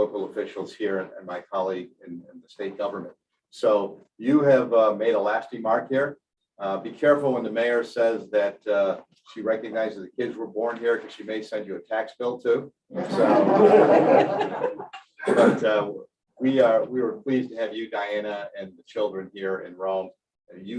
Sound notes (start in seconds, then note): 13.0 laughter